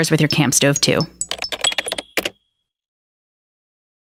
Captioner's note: keyboard Typing